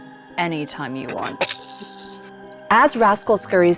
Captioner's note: snorts